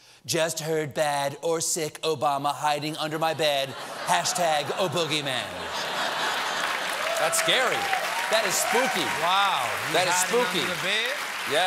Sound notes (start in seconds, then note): 6.0 applause